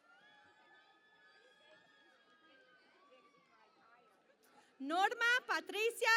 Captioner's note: cheering and Applause